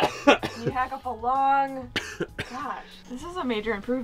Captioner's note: coughs